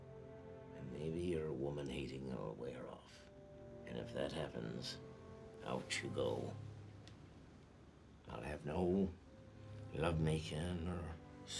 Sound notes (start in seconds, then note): none